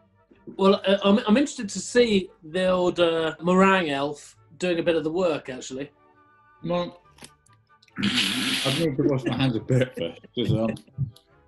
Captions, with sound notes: Well, I'm interested to see the old, er... ...meringue elf doing a bit of the work actually. [MUMBLES] [LAUGHTER] I need to wash my hands a bit, first.